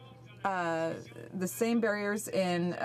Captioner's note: speaking French